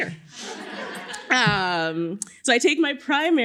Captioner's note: laughter